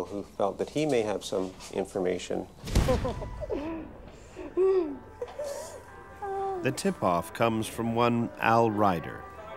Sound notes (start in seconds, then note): 2.9 laughing